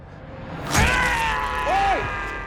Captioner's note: screams